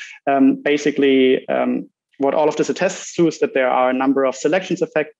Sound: none

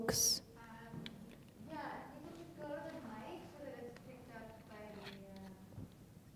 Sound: speaking faintly off mic

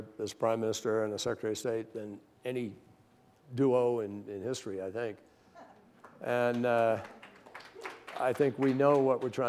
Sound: applause

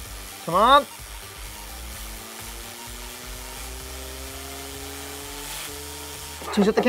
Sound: whirring

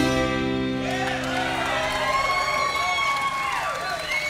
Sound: crowd cheering

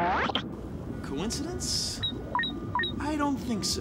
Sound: beeping

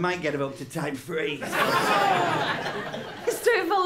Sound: laughter

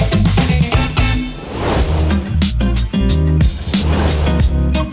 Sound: transition whooshing; bright music; transition whooshing

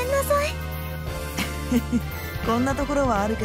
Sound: chuckle

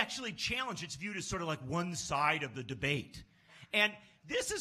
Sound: sarcastic

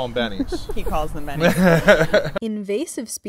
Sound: laughter

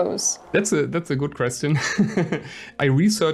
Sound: laughs

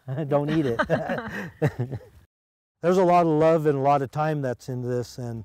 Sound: laughter

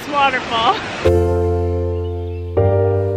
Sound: water splashing; upbeat music

